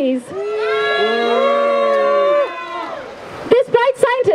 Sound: crowd boos

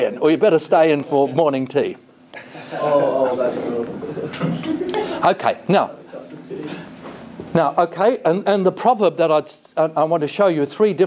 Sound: jovial banter

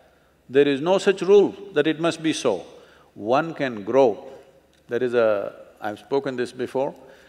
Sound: none

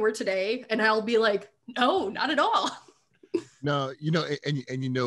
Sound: laughing

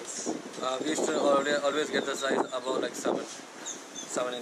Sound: wind blows

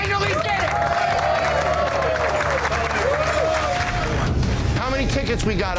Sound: customers applauding

